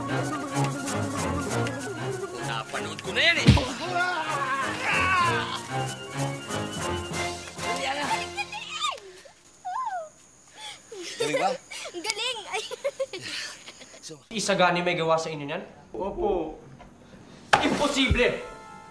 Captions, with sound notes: -I’ve seen that already. -[goons scream] -Hurry up, Ana. -That was amazing! -Was it good? -So good. [laughs] -Isagani did that to you? -Yes, sir. Impossible!